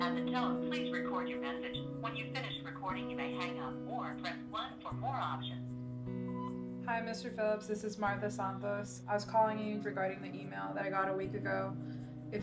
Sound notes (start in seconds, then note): 6.3 phone beeps